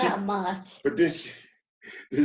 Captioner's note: laughs